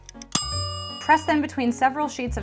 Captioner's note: clock ticking; bright music; timer dings